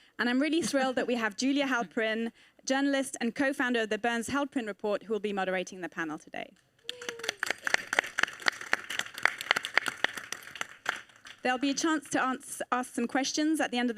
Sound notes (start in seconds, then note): 6.8 audience applauding